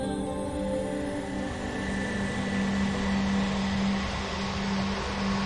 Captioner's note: airplane engine roaring